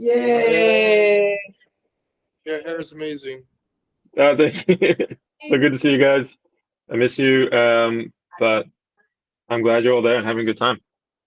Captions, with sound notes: Yay. - Your hair is amazing. - Oh, thank you. (laughing) So good to see you guys. I miss you. But I'm glad you're all there and having a good time.